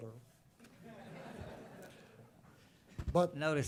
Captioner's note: laughter